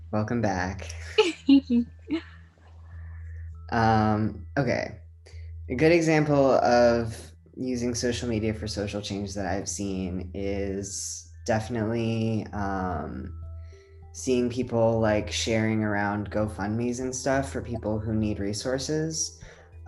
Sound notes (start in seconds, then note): 1.2 chuckling